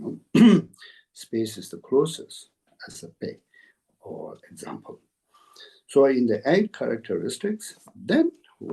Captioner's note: tibetan